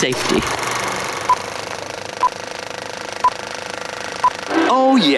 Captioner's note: beeping